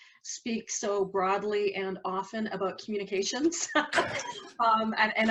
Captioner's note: laughs